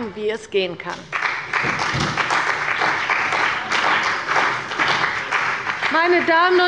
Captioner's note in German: Beifall bei der CDU und dem BÜNDNIS 90/DIE GRÜNEN